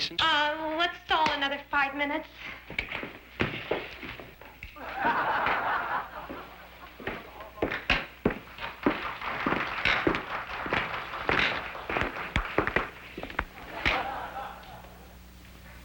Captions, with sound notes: Yeah, well it sounds like one of Mickey's little jokes. Uh, let's stall another five minutes. Okay. [ laughter ] [ applause ]